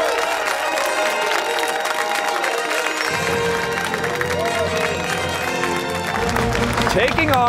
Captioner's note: fanfare; cheers and applause